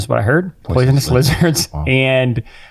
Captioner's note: chuckles